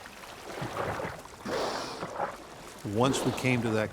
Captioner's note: splashing